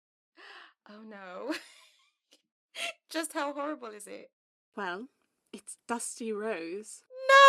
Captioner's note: Mary laughs